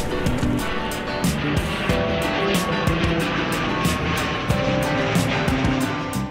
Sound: A plane takes off

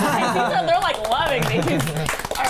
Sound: band laughs; everyone clapping

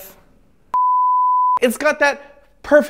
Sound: beep

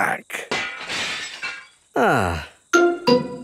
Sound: glass shatters

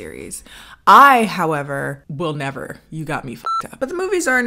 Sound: beep

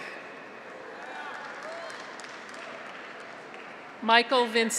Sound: audience applauds; graduates cheer

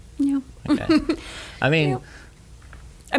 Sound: laughing

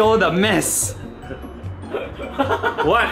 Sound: embarrassed laughter

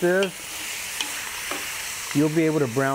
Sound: meat sizzling

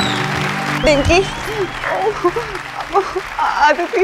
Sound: crying

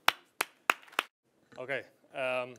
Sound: audience clapping

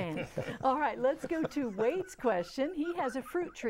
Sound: laughing

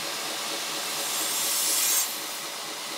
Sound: quiet grinding

